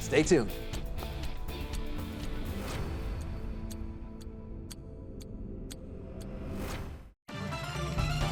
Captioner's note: clock ticking; intense music